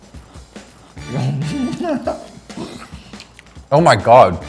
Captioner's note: laughs